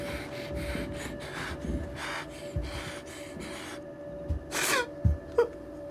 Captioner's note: sobbing